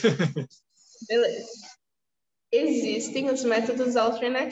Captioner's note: laughs; speaking portuguese